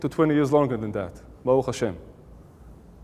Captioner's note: Hebrew